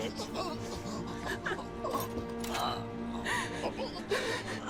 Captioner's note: soldier gasping; Nelly whimpering